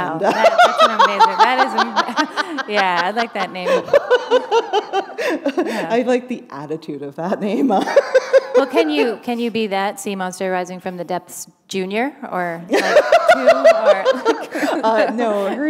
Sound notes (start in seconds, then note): 7.6 laughter; 12.7 laughter